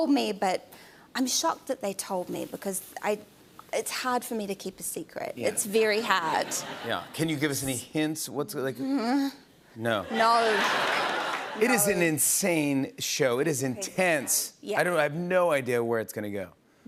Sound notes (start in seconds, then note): 9.0 groans; 10.1 laughter